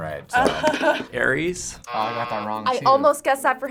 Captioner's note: buzzer rings